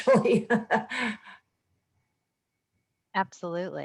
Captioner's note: laughs